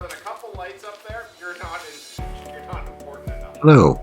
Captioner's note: chatting in background